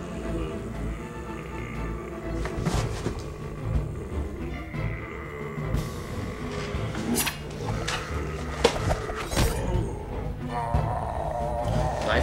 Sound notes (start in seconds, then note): 0.9 zombie grumbles; 9.1 knife thuds